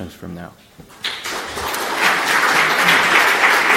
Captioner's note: applause